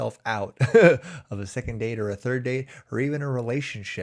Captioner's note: chuckles